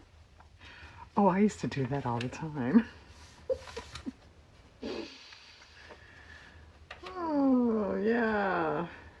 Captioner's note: laughs